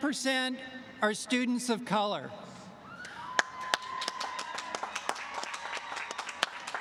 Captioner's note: applause